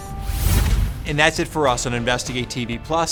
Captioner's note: air whooshes